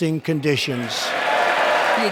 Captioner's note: cheering and applause